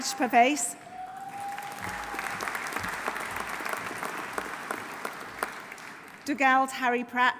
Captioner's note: audience applauding; audience cheering